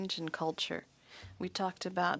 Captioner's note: speaking French